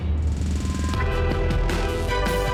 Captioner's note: speaking spanish